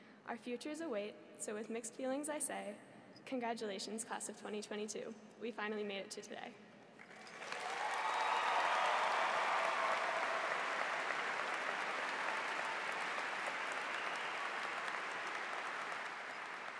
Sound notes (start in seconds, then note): 7.0 audience applauds; 7.0 cheers